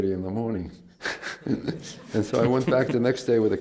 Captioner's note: laughs